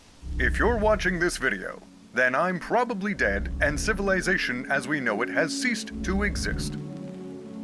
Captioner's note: static plays on the tape; the tape plays